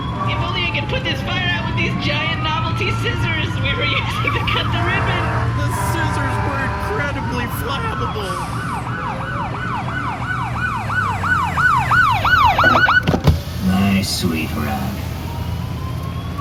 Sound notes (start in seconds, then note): 0.3 sirens join the fire alarm; 13.5 cop pulls up, siren cuts off; 14.0 rolling down window